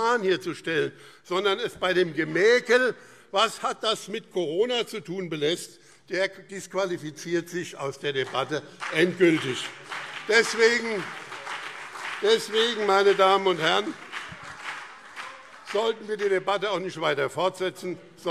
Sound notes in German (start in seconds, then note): 9.8 Beifall BÜNDNIS 90/DIE GRÜNEN und CDU - Zurufe SPD